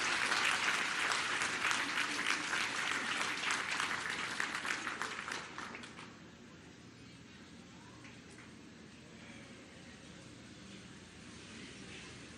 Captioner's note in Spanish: aplausos